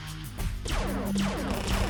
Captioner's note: shots from a laser gun; machine gun fire